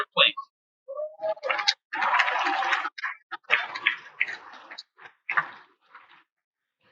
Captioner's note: cheers and Applause